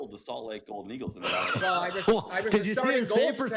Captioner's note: laughter